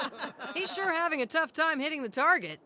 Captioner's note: laughs